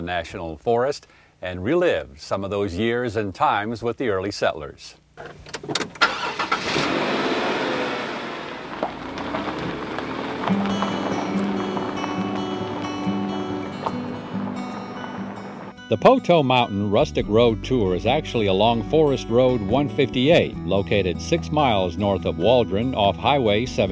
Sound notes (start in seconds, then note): 11.3 car starting